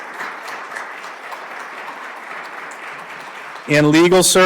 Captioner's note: applause